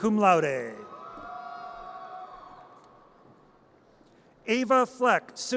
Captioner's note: audience cheers